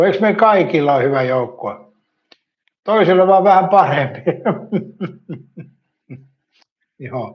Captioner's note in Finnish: naurua